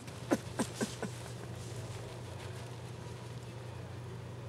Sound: sobbing

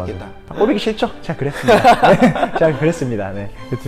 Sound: laughing

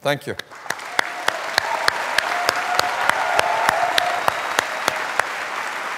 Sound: applause

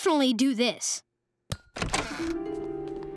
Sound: door creaking

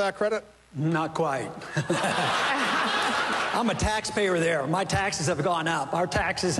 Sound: laughter

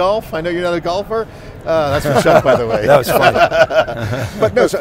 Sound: laughing

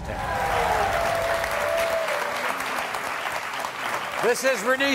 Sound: audience claps

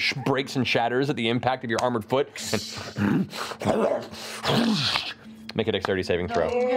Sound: grunting and whooshing

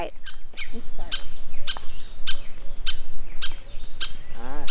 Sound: birds tweeting

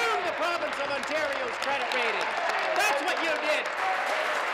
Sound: applause

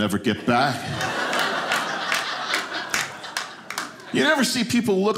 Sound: audience laughing

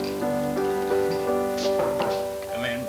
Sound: knocking on door

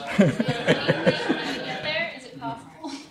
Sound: launghs

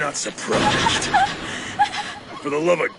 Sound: gasping hysterically

